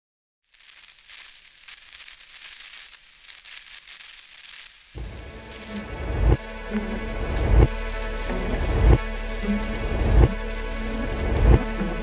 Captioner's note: film static sound